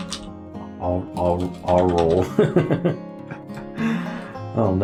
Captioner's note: laughs